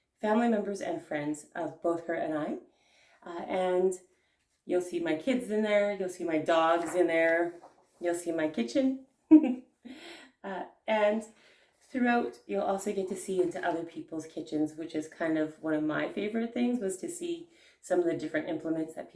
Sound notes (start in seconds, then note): 9.3 giggles